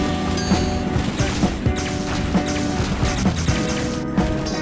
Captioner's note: sounds of carnage throughout